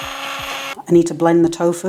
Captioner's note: blender whirring